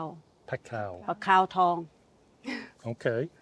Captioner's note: speaking in foreign language